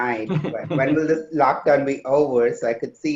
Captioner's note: chuckles